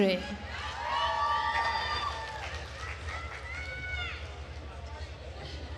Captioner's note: attendees cheering and applauding